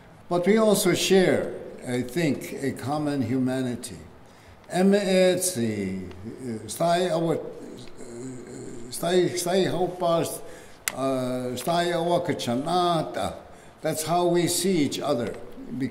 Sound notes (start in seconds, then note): 4.6 speaking keres language